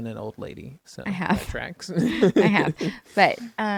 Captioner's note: laughs